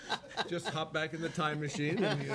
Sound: laughing

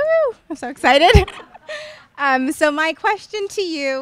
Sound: laughs

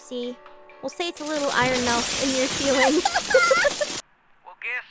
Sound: crashing; IronMouse cackle

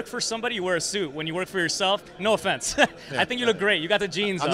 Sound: laughs

